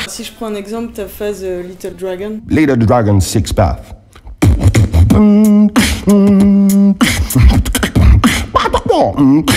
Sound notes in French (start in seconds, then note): 4.0 beatbox